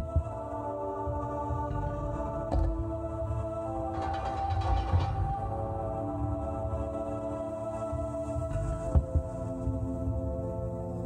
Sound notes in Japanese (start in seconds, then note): 3.3 何かの音：ガラガラガラ